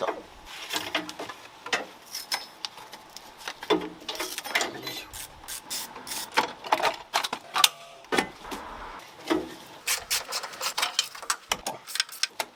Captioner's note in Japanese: 作業音